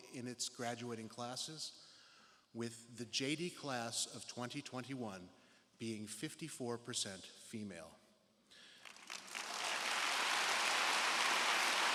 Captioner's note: applause